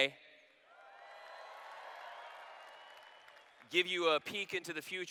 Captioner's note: cheers